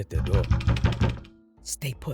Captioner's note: knock